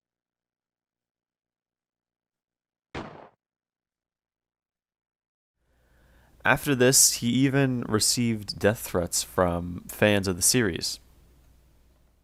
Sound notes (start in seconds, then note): 2.9 gunshot